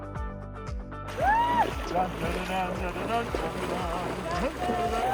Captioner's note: both humming